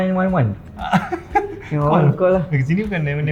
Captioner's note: laugh